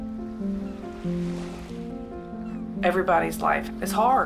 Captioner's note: upbeat instrumental music; waves crashing; seagulls crying